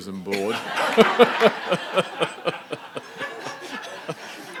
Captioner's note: laughing